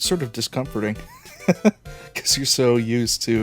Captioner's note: chuckle